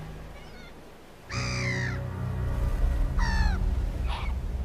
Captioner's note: ominous music; gull screeching